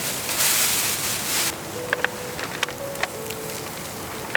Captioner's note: rustling sound of plastic bag